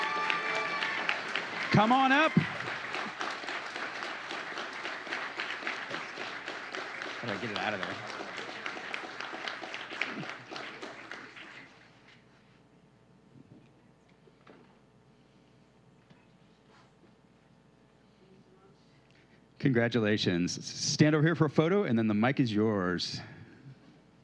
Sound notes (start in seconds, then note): 0.0 applause; 6.4 applause